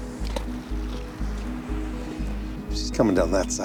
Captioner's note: water splashing